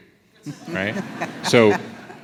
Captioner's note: audience laughs